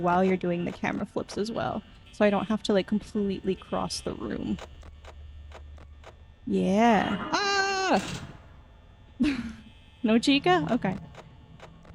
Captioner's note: laughs